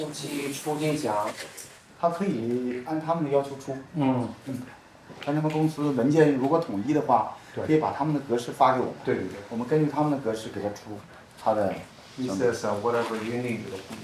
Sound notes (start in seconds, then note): none